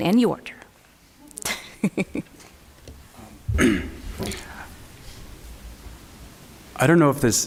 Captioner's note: laughs